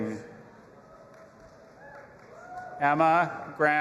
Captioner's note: audience applauding and cheering